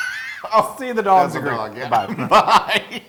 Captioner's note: laugh